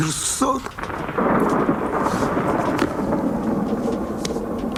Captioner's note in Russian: звуки грома